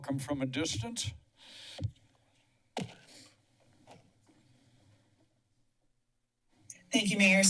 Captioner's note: silence